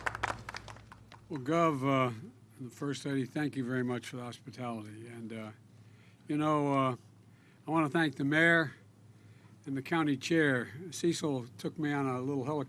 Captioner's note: applause